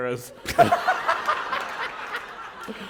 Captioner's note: laughter